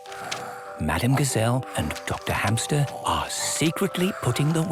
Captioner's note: whispering